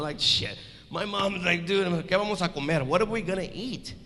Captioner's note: speaks in foreign language